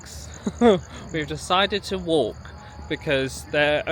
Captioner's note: laughs